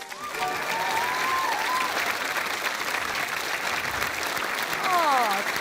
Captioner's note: applause